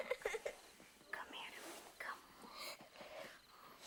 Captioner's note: sobbing